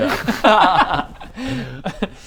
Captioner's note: laughs